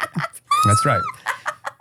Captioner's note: laughs